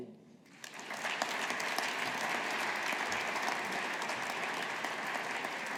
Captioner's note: audience applauding